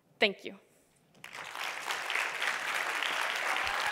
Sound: applause

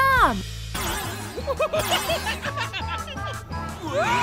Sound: laughing

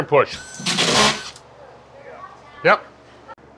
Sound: nail gun sounds

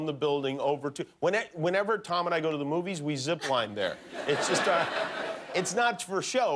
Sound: laughter

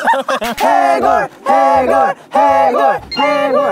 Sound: Pork-belly teams cheer

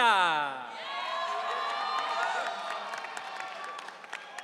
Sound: audience cheering

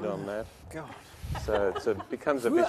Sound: laughter

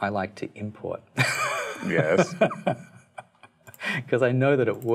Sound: laughs

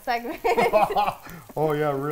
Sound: both laughing

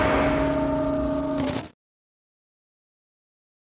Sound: sfx: static

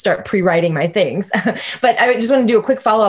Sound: laughing

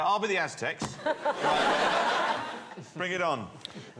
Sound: laughter

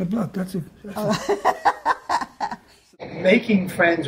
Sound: laughs

